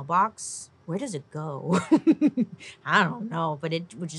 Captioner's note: laughs